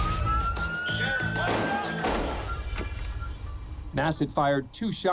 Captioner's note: siren blaring; gunfire